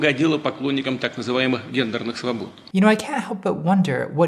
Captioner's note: speaking Russian